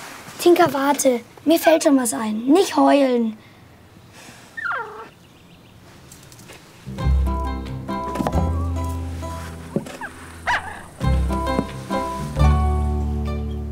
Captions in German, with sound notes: Tinka, warte, mir fällt schon was ein. Nicht heulen. (Winseln) (Erwartungsvolle Musik)